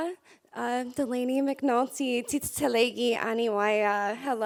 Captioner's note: speaking foreign language